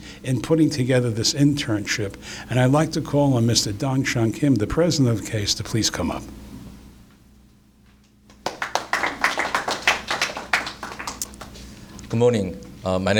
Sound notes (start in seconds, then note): 8.3 applause